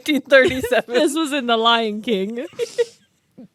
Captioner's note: laughs